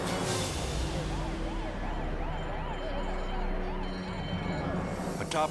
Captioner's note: sirens blaring